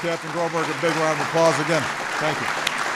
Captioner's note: applause